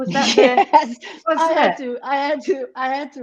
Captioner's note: chuckles